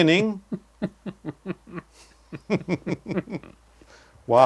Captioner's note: laugh